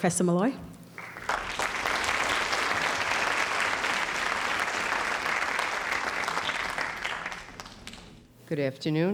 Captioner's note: audience applauding